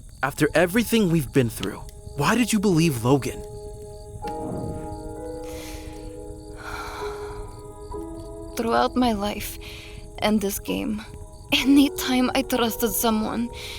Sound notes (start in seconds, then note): 5.4 sharp exhale